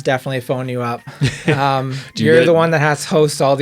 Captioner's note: laughing